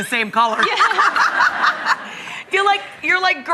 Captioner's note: laughing